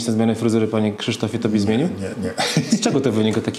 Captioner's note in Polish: śmiech